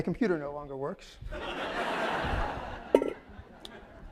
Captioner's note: laughter